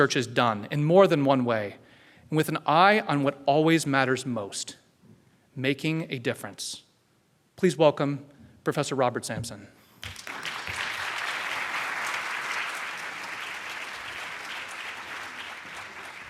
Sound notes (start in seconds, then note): 10.0 applause